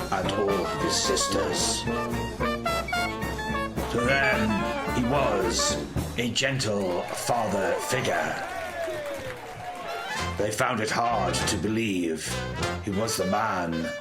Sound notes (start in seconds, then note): 8.5 energetic jazz jive music ends. Cheering and clapping is heard